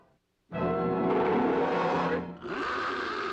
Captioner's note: growling